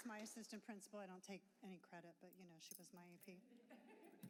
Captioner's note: applause